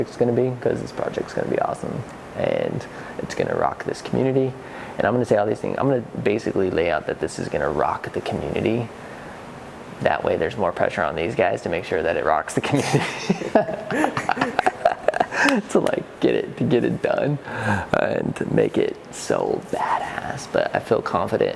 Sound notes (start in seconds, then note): 12.8 laughter; 15.4 clapping